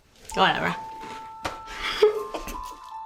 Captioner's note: giggles